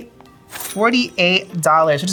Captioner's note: cash register dings